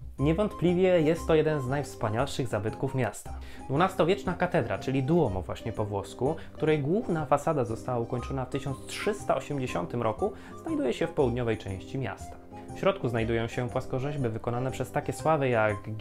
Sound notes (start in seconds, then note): 6.0 Italian